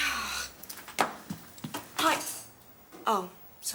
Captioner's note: folders clatter; footsteps tapping